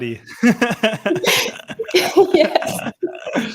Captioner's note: laughing